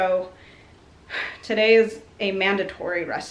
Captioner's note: sighs